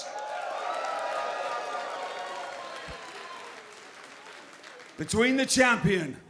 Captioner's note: crowd cheering